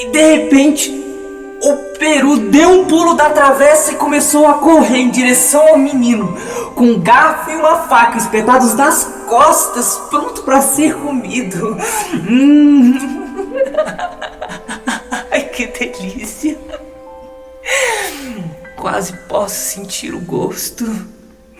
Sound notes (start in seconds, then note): 11.8 laughs